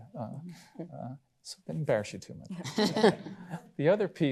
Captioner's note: others laugh